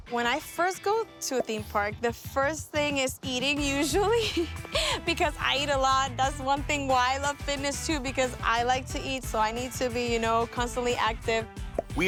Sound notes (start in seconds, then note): 3.7 laughs